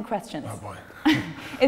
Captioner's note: lacht